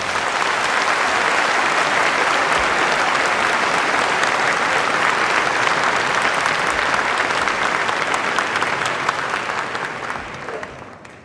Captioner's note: applause